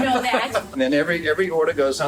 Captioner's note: laughter